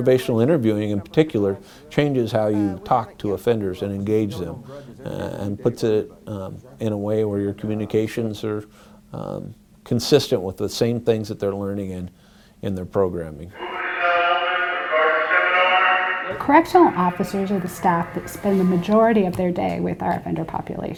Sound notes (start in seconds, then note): 13.5 living unit sounds